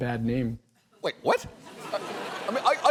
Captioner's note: audience laughs